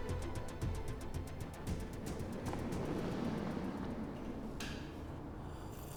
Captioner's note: car driving outside